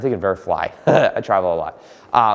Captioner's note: laughing